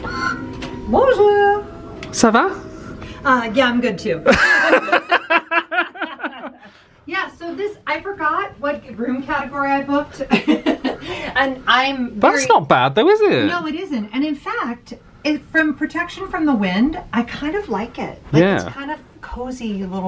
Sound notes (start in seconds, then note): 0.2 door creaking; 2.2 speaking French; 4.2 pair laughing; 10.3 laughs